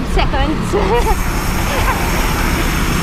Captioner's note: laughs